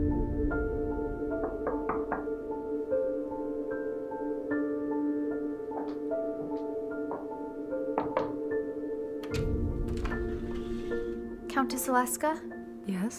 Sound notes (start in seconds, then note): 1.3 door knocks; 3.5 soft piano music; 7.9 door knocks